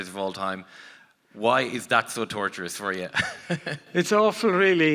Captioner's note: laughs